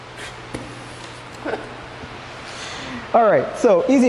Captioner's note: laughs